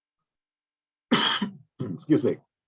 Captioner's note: coughs